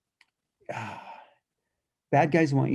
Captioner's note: sigh